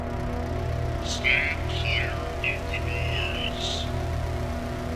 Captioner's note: automated voice